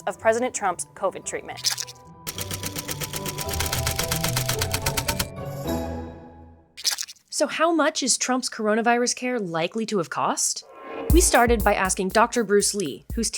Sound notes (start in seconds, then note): 2.2 letters clacking